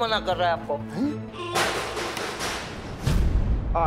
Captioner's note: metal shaking